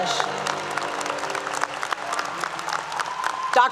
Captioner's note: applause 👏 👏